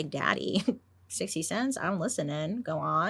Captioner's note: chuckles